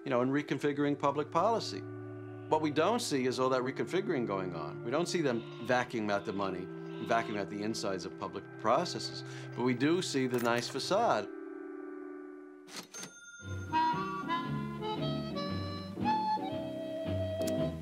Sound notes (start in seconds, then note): 12.7 cash register dings; 13.6 pleasant jazz music